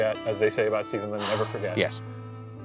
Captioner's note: sighing